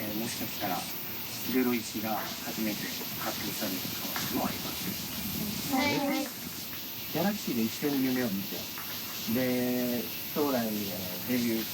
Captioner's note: speaking in foreign language